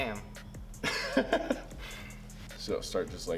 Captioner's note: laughing